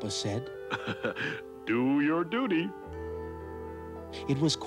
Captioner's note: chuckling